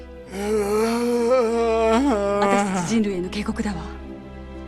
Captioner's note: painful growl